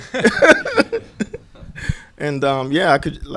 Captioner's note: both laugh